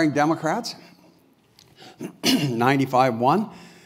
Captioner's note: cough